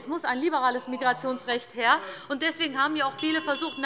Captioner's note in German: Unruhe - Glockenzeichen des Präsidenten